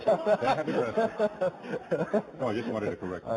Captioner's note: laughing